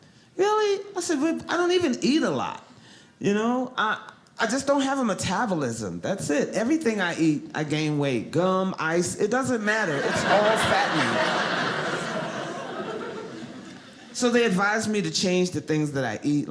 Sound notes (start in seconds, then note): 9.9 audience laughing